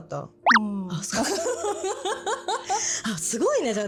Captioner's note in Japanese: 笑い